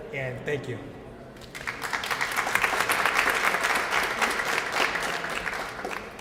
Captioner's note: applause